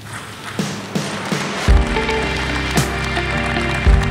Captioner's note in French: applaudissements